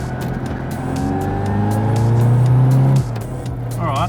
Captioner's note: engine accelerates